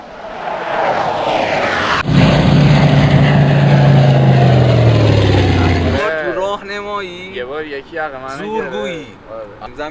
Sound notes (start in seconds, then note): 0.0 real plane taking off sound